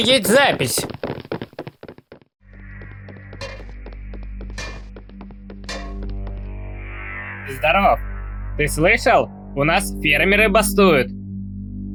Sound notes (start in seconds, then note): 0.0 steps; 1.5 hitting a metal surface with a hammer; 2.4 steps